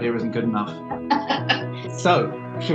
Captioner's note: group member laughing